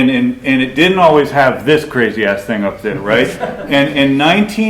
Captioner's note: laughter